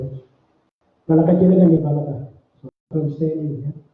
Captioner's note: speaking in Aboriginal language